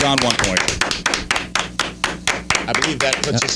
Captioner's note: clapping